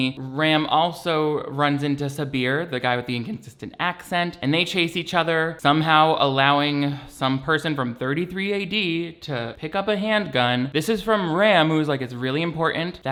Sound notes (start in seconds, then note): none